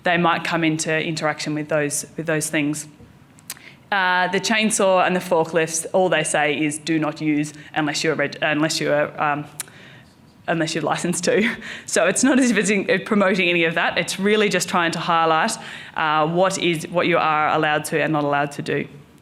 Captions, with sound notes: they might come into interaction with those things. The chainsaw and the forklifts, all they say is, do not use unless you're licenced to. (chuckles) So it's not promoting any of that, it's really just trying to highlight what you are allowed to and not allowed to do.